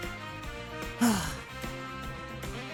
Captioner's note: sigh